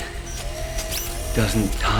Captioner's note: machine whirring